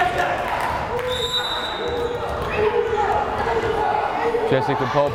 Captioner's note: whistle blares